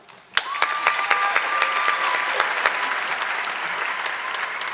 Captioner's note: audience clapping